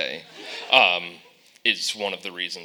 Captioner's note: audience laughing